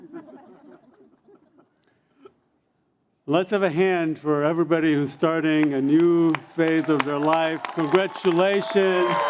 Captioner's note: cheers and Applause